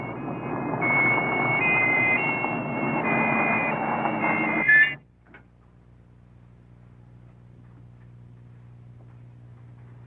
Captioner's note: police siren